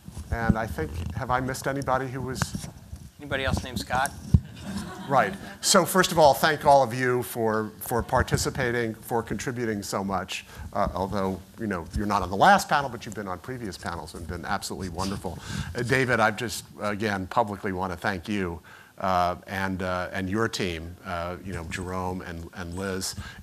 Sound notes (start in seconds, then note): 4.5 laughter